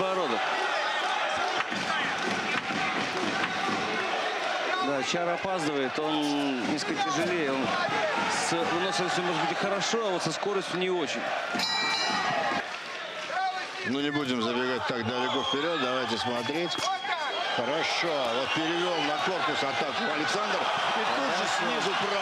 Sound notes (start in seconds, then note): 8.8 cheer